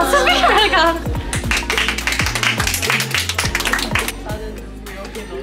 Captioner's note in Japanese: 授賞式のホストの 開幕コメントにもみんなで拍手